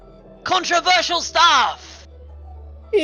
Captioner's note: screaming